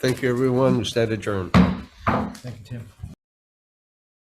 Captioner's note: gavel pounding